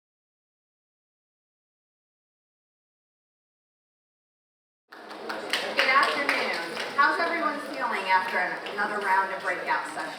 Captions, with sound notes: - Good afternoon. (audience clapping) How's everyone feeling after another round of breakout sessions?